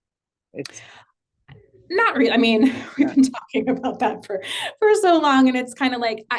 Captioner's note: laugh